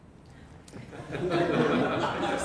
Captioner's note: laughter